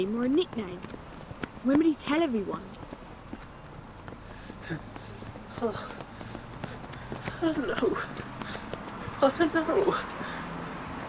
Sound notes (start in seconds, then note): 4.2 Terry's pained breathing